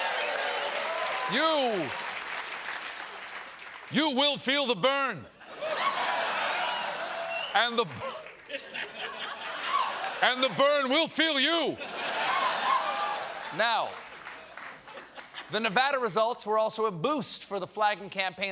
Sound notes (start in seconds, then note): 0.0 cheers and applause; 7.7 laughter; 8.1 cheering; 14.7 laughter